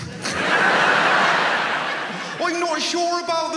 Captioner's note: audience laughs